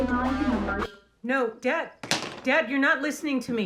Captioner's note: rock music; TV cuts out